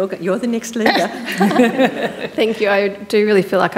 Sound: panellists laughing

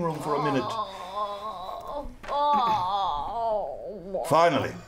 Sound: groaning

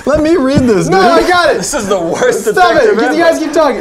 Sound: laughter

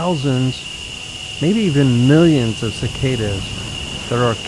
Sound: cicadas buzzing

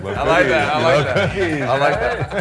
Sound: man laughing

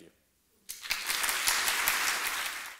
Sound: applause

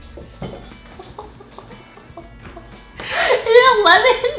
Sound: gagging; laughing

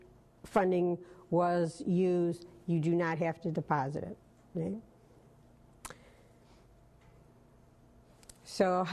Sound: pause

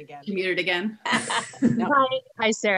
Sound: all laughing

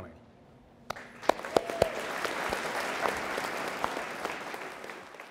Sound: audience applauds

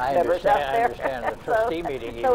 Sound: laughs

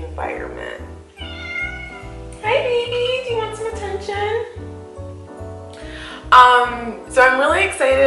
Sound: cat meows

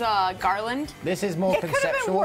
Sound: laughter

